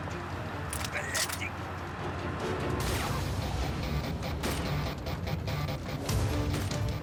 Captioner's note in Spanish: ruido del vehículo